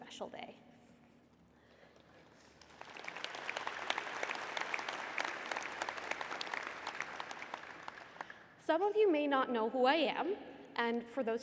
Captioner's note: applause